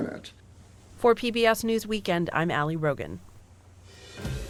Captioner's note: voice-over